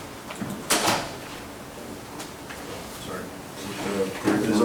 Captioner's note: door slamming